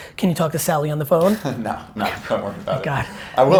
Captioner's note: laughs